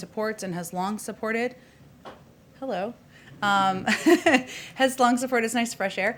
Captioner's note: laughs